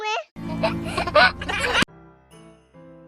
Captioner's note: baby giggling; bright Christmas music